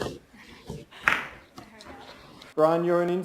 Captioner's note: laughs